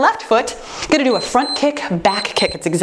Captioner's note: timer beeps